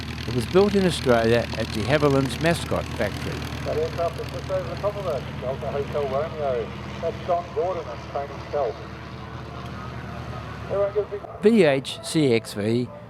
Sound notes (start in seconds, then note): 3.6 aircraft sounds